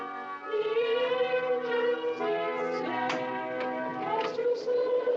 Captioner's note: door Opens